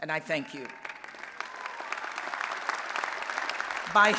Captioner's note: applause and Cheering